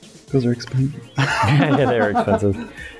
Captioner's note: laughter